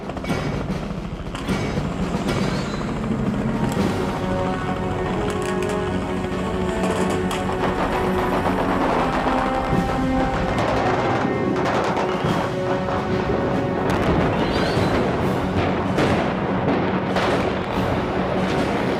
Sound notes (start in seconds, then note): 1.0 explosives booming; 1.5 engine roaring; 7.9 explosives booming